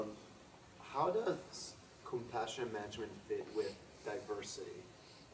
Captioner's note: voiceover